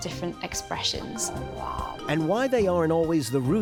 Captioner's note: growling